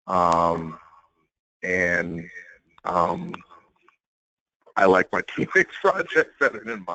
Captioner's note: laugh